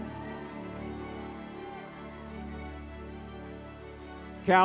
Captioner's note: crowd cheering